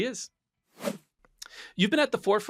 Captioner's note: swoosh sound